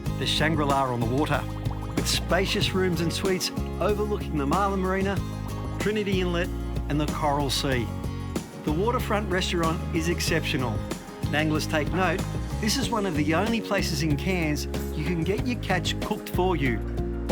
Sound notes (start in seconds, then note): 5.9 water splashing